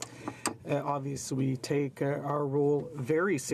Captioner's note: speaking French